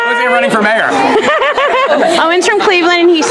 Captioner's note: Leslie laughs